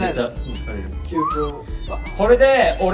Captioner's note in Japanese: 口笛